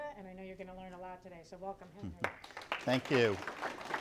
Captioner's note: clapping